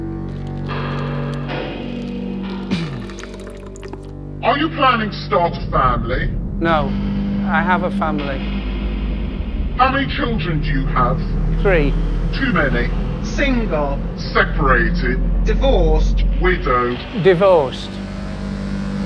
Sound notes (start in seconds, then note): 0.2 liquid pattering; 2.6 interviewee clears throat